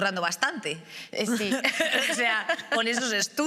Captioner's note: laughs